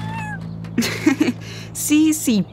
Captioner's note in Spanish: risas